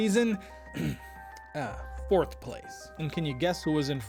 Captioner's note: ahem